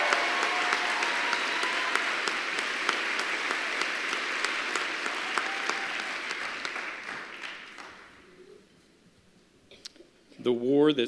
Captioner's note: applause